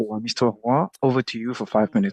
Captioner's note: speaking French